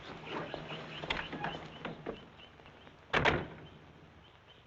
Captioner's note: doors rattling; doors slamming; birds chirping; footsteps thumping